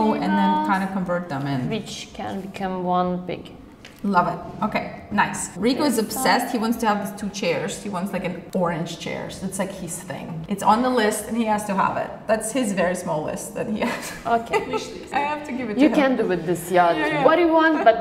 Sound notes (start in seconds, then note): 14.2 laughs